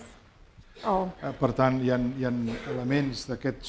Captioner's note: speaking spanish